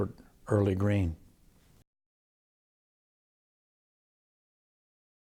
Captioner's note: silence